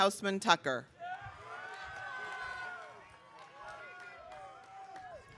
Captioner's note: audience cheering